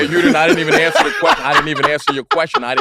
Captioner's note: laughing